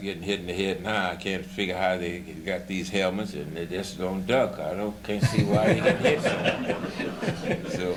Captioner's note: laughter